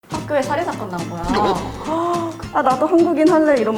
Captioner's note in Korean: 허억